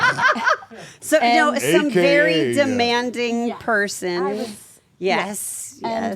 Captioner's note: laugh